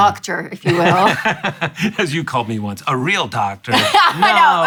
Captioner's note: laughs; laughs